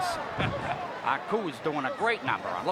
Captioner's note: Bobby chuckling